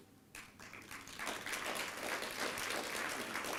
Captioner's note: applause